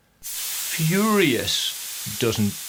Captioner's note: gauge hissing